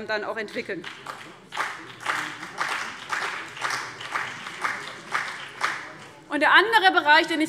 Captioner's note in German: Beifall CDU und BÜNDNIS 90/DIE GRÜNEN